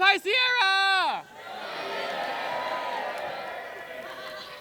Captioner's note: cheering